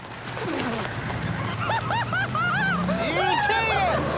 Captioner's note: laughter